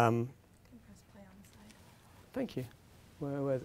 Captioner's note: woman speaking softly